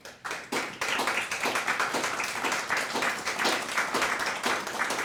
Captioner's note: audience applauding